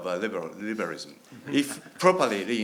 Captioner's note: chuckling